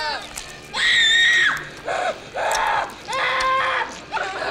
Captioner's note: child grunting